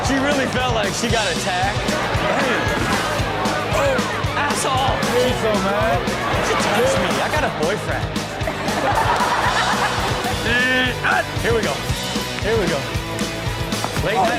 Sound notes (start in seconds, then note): 8.4 everyone laughs